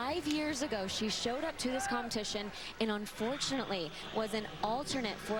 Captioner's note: cheers